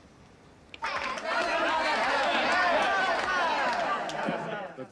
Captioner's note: all shout